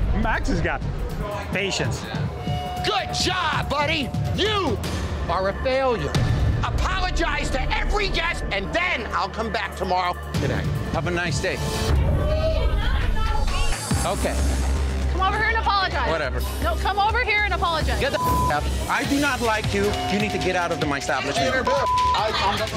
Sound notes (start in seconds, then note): 18.1 beep